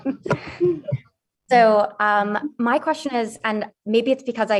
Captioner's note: laughing